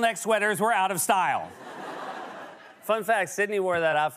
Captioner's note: laughter